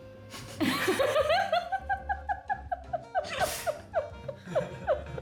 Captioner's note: laughter